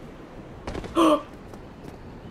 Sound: excited gasp

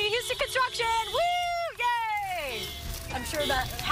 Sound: horn Honking

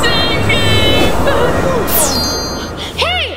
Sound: bell chimes

